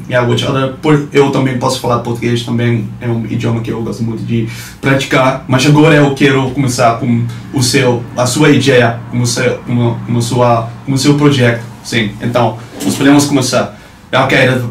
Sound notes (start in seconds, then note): 0.9 portuguese